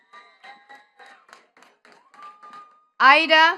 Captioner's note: attendees clapping